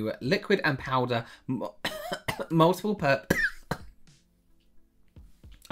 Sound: cough

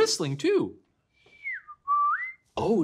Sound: whistle

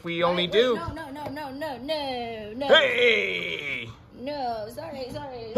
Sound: shrieks

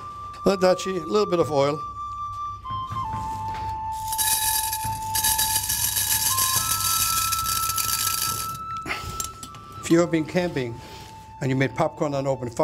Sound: popcorn pouring

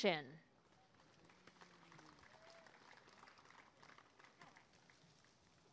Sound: applause and cheering

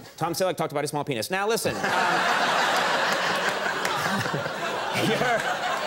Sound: audience laughs

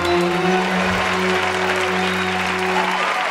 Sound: cheering; clapping builds

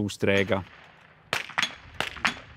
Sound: shots

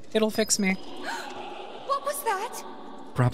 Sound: gasp

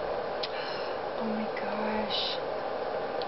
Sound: gasp

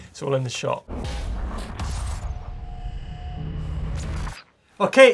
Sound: metal clashing and sparking

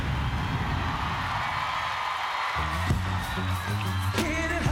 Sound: screams

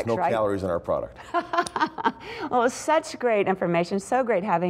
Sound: laughter

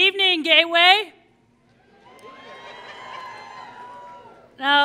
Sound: applause

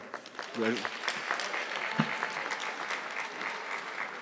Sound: audience clapping

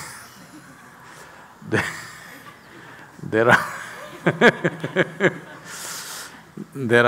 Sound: laughs

